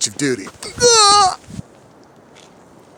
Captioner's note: scream